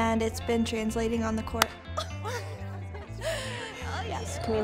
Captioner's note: girls clap and laugh